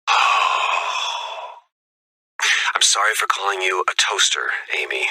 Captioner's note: sigh